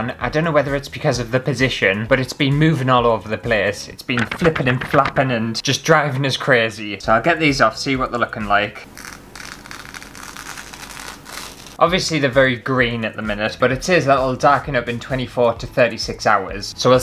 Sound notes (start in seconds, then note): 8.9 tape Peeling Sound